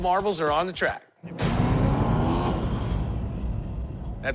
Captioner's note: engines rumbling